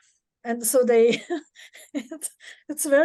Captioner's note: laughs